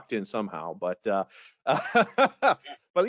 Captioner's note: laughs